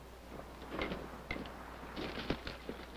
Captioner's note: rustling